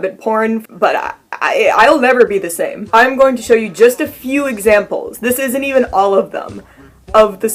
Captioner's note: stammers